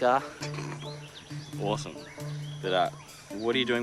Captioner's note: snickers